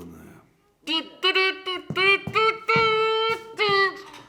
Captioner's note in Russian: громкое дуденье